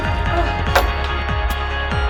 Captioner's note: door slams shut offscreen